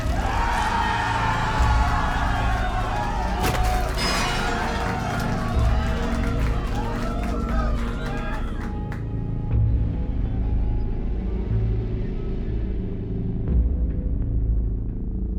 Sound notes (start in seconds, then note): 0.0 crowd shouts; 0.3 crowd cheers; 3.3 masked fighter thumps; 5.6 ominous music